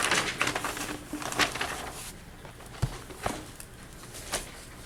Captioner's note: rustling papers